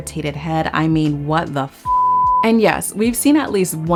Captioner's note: beep